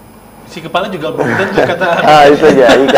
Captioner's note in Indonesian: tertawa